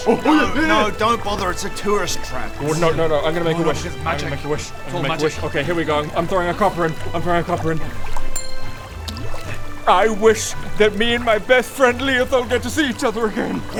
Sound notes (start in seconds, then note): 8.3 ding!; 9.0 plop!